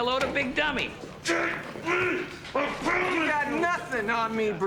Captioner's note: Eldon grunts